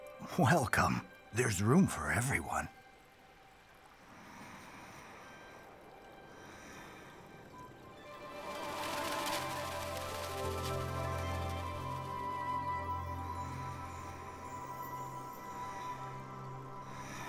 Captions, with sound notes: Welcome. There's room for everyone. [DEEP BREATHING CONTINUES] [FLUTTERING SOUNDS]